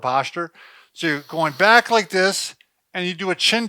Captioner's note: inhales